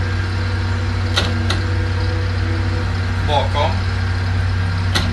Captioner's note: speaking Swedish